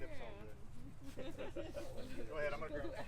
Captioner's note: laughing and jokes